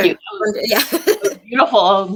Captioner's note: laughs